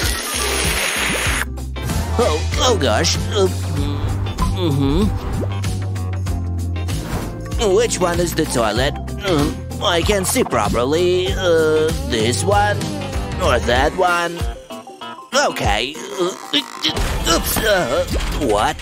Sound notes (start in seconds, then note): 0.2 laughing; 4.2 sniffs